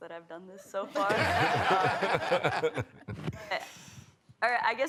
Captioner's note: laughter